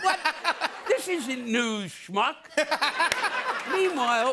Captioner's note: laughter